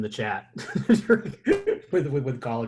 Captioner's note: laughter